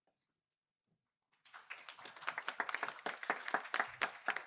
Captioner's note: applause